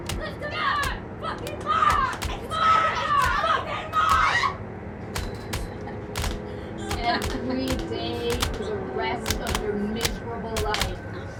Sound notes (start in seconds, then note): 3.2 women yelling; 6.1 whips beating